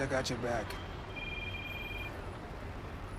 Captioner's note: phone rings